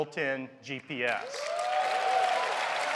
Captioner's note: cheers and applause